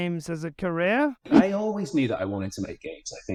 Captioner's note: air whooshes